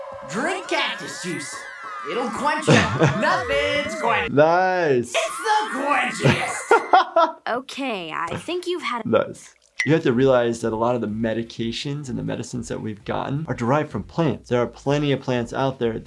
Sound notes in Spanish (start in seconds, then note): 6.9 se ríe